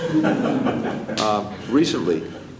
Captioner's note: laughter